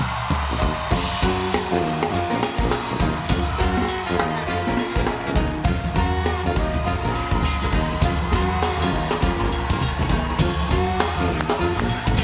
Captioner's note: cheers and applause